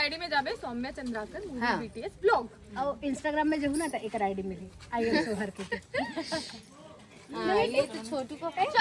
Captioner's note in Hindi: हंसी